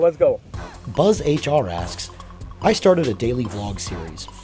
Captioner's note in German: Voice-over